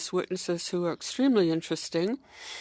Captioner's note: speaking French